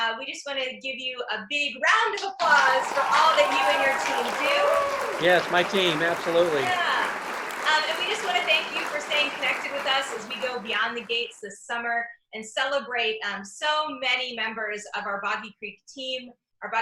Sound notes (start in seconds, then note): 2.7 claps and applause